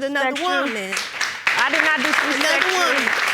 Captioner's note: audience applauding